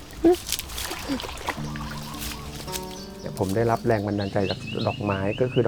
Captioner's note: speaking in foreign language